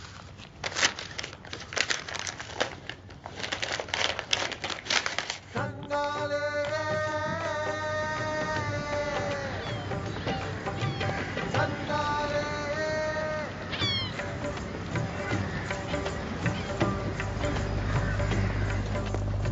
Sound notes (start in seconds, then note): 0.0 ripping; 3.5 rustling; 5.7 upbeat Indian music